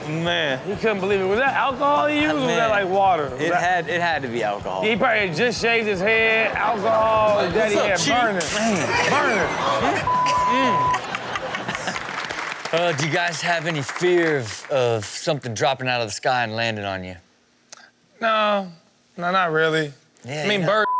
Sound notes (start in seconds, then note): 9.7 Chanel laughs; 11.0 audience applauds